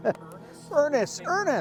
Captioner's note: person laughing